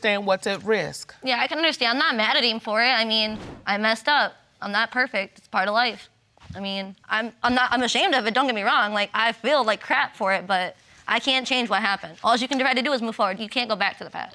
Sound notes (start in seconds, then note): none